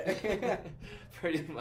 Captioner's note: laughs